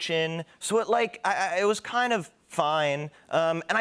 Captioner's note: stammers